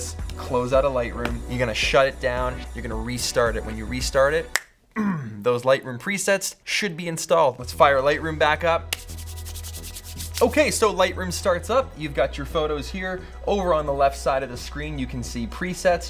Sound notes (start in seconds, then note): 4.5 snap; 8.9 rubs hands together